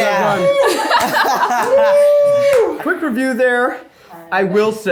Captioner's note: everyone laughs